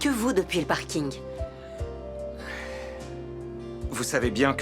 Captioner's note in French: soupirs